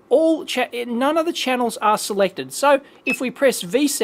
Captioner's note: beeps